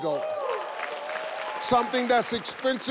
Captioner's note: audience cheers